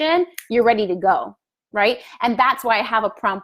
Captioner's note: fingers snapping